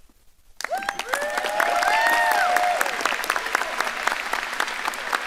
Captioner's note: audience applauding